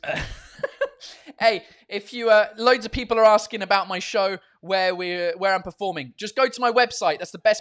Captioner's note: laughs